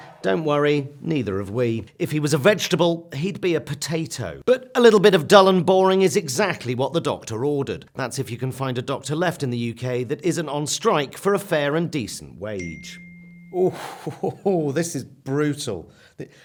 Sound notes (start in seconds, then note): 12.6 phone rings